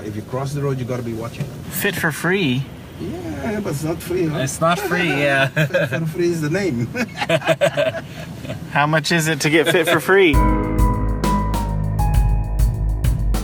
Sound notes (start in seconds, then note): 6.9 laugh